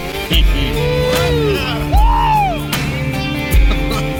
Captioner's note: men laugh